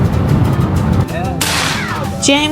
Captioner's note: bang!